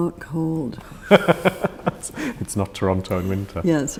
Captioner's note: laughs